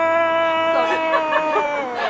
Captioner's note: Heult